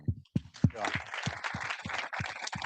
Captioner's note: both applauds